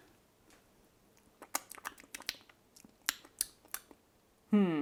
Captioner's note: lip smacking